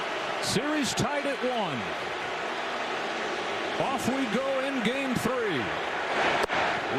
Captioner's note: crowd booing